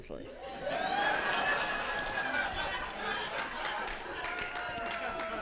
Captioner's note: audience laughing and applauding